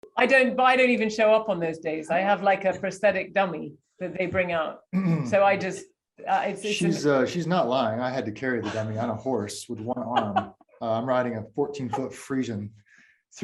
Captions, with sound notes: - I don't, I don't even show up on those days. I have like a prosthetic dummy that they bring out. (Daniel clears throat) So I just. - She's, she's not lying. I had to carry the dummy on a horse with one arm, I'm riding a 14 foot Fresian